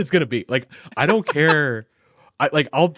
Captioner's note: laughing